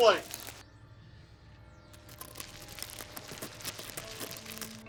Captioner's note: screaming